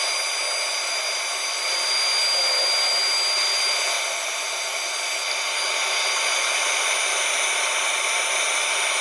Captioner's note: woodturning sounds